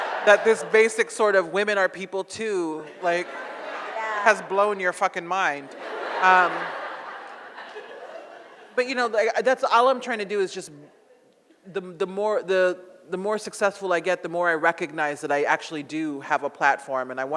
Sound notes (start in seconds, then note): 5.4 audience laughs